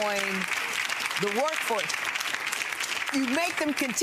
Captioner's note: applauding